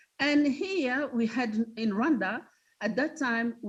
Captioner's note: none